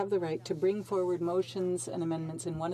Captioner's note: speaking French